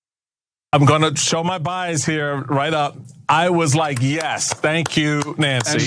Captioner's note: applause